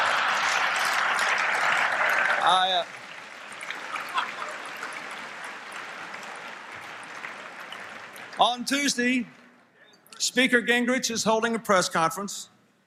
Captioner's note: applause, Laughter